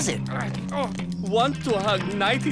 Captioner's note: struggling grunts